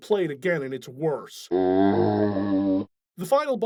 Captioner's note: zombie groan